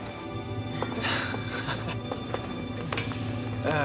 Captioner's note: chuckling